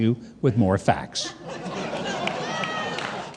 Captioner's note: audience laughing